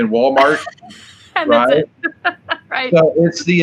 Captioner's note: laughs